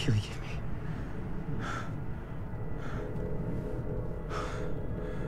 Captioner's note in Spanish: Respirando pesadamente